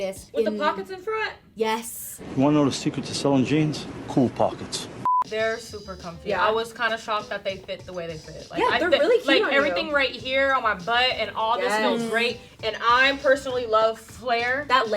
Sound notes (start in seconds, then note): 5.0 beep